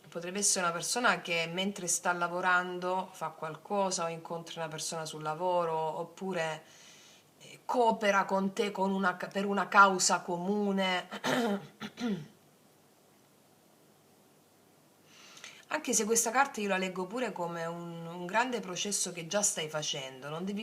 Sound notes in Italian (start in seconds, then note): 11.2 schiarire la voce; 14.3 tosse